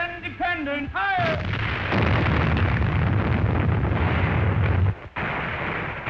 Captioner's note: loud cannon fire